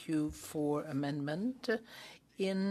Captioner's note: speaking French